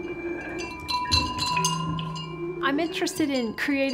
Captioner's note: haunting woodwind music; tinkling